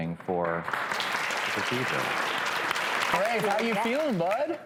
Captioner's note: audience applauding